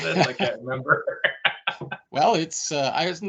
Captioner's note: laughs